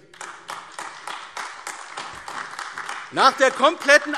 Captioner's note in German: Beifall AfD